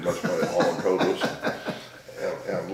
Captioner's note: laughing